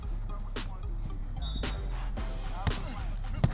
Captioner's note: whistle blowing